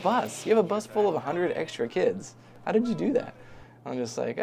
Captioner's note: laughs